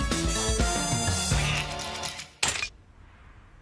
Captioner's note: quacks